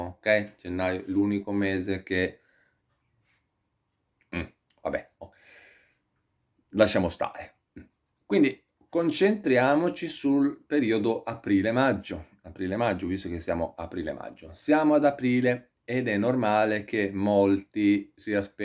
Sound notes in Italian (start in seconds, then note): 4.3 schiarire la voce